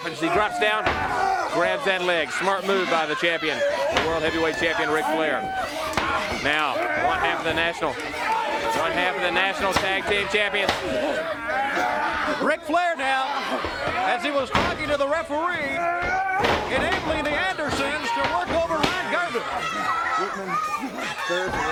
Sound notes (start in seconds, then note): 17.2 crowd chatter; 20.6 crowd chatter